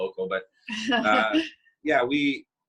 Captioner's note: chuckles